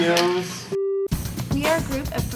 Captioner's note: beep